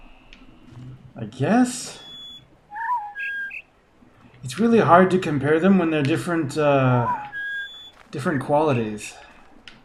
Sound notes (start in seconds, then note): 2.6 bird chirps four notes; 2.6 bird warbling ˩˧˩ ˥